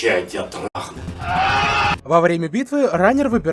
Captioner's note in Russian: дикий истошный крик